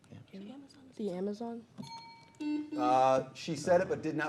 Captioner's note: bell chimes